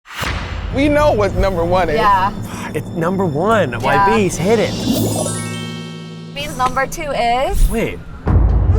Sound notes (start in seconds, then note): 0.0 tense music; 5.2 magical twinkling